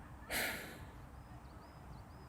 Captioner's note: sigh